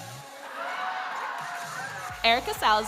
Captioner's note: audience cheers